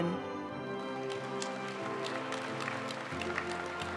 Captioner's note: audience cheering and applauding; graduation music